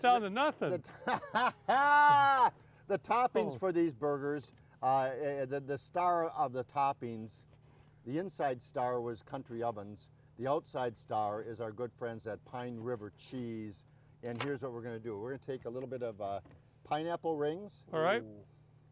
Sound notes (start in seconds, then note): 0.9 mad dog laughing